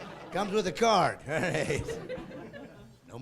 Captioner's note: laughing